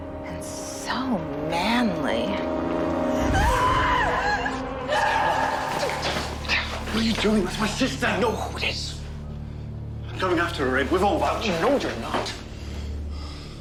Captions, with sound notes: and so manly. (Caroline screaming) - What are you doing? - That's my sister! - I know who it is. - I'm going after her, Abe. We've all got- - No, you're not.